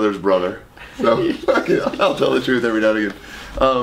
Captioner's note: laughing